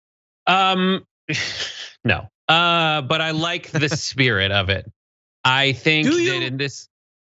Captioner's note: laugh